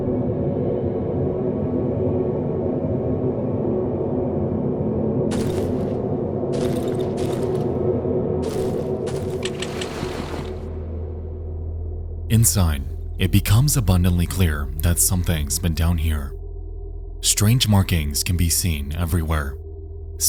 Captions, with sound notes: (footsteps pattering) Inside, it becomes abundantly clear that something's been down here. Strange markings can be seen everywhere.